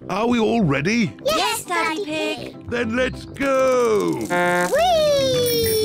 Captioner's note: blows horn